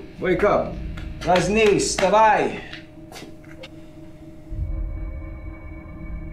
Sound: speaking foreign language

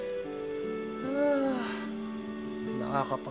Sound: sighs

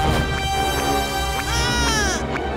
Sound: screams

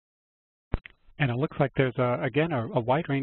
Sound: voiceover

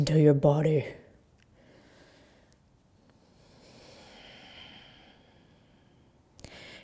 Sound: breathing

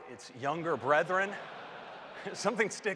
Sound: laughter

